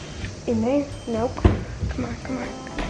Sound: closes cabinet

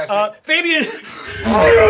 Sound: mimics engine revving

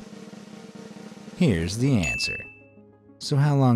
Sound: bell dinging

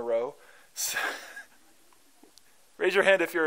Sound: laughter

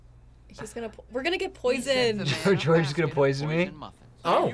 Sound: laughs

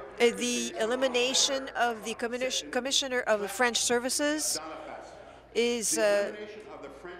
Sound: speaking in French

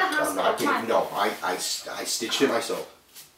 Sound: stammers

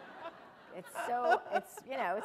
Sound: laughter

